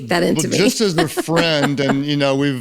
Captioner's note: laughs